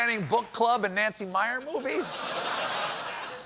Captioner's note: laughter